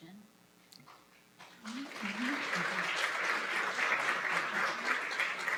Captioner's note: applause